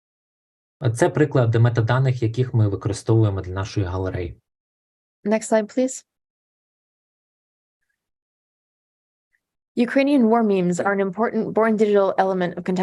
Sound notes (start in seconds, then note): 0.7 foreign Language Spoken